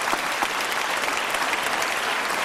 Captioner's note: applause